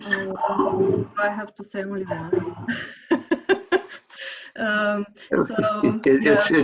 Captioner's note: chuckles